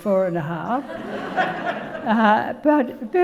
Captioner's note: audience laughing